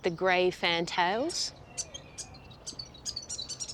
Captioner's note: chirps